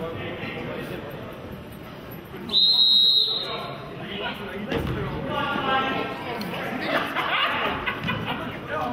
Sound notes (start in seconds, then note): 2.4 whistle blows